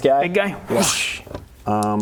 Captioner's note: whoosh